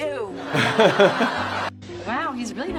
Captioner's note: audience laughing